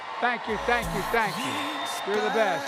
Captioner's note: applause